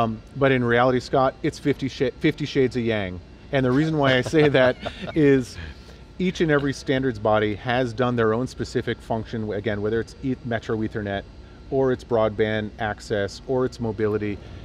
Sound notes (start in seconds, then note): 3.7 laughter